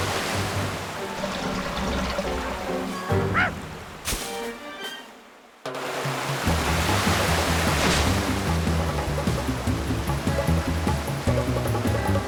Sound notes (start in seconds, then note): 3.3 whimpers